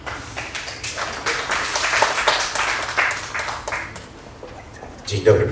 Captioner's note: applause